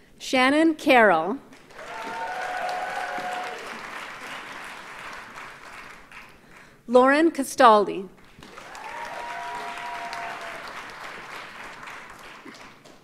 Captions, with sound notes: Shannon Carol. (audience cheers and applauds) Lauren Castelli. (audience cheers and applauds)